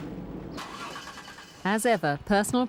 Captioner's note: engine starting